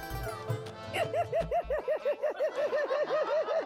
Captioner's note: laughing